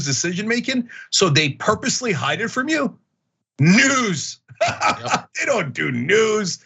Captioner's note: laugh